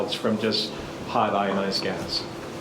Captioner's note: none